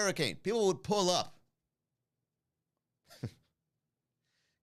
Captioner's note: chuckle